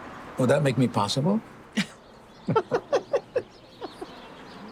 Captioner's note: Grace laughing